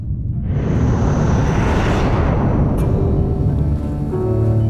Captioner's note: ship whirring; dramatic music